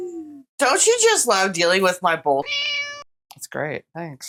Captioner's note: meow